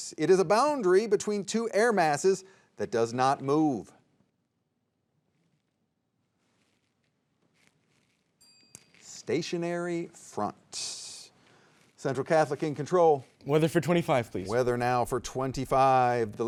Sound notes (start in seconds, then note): 8.4 soft chiming